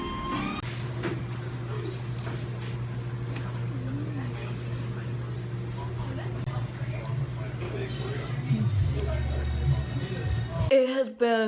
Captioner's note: chill jazz music; crowd noise